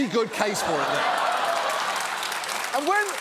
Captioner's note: audience laughs, applauds